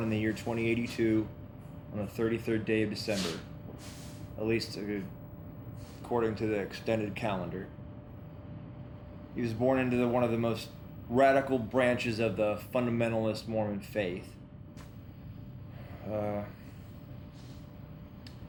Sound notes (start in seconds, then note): none